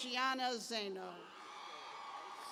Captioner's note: cheers